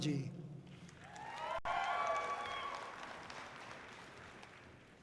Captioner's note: audience cheering loudly